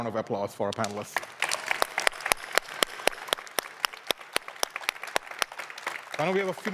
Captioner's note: applause